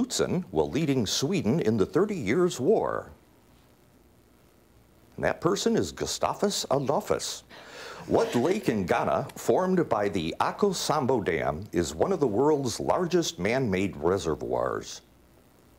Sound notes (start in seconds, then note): 8.0 students laughing